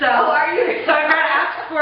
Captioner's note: laughing